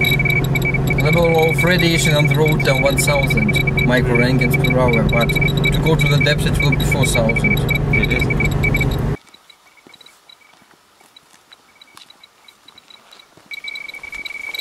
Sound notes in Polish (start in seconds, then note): 9.6 Klikanie liczników Geigera